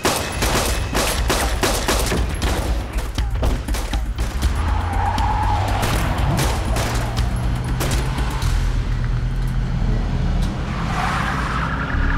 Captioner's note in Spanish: Disparos